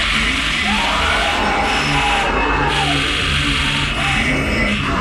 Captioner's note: unsettling music; Billy screaming